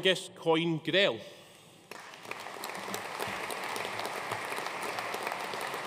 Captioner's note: audience applauding